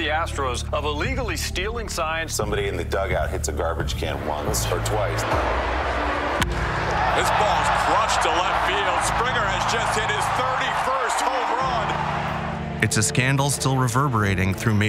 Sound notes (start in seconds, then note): 6.4 low-pitched thump, bat cracks